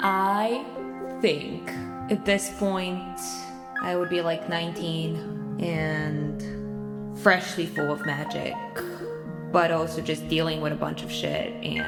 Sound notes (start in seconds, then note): none